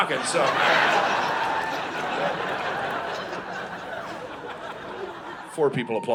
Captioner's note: audience laughing